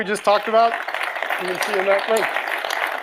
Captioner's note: audience applauds